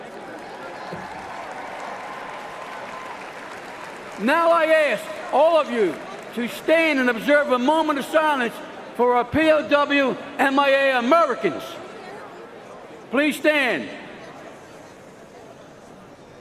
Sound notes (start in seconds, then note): 6.4 cheers and applause